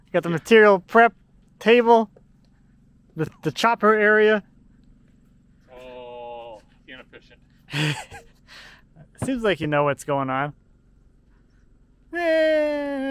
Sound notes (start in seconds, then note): 7.6 laughs